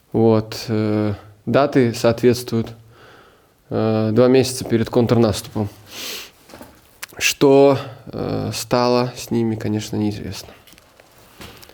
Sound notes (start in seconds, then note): 5.3 Ukrainian